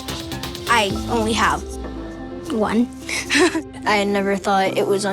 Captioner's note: giggles